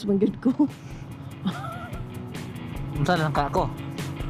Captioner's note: laugh